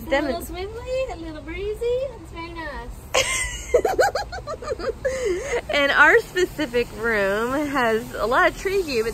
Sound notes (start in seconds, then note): 3.1 woman giggles